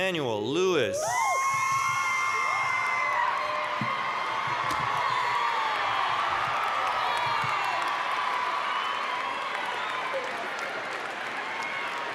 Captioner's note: applause, cheering